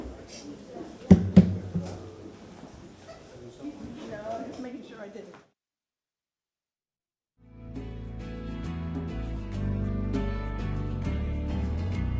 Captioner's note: gavel sounding